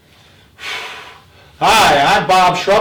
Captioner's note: breathes out